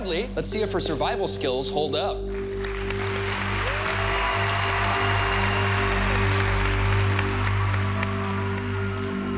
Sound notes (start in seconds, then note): 2.3 applause